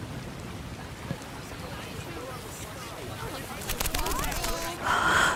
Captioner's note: voices approaching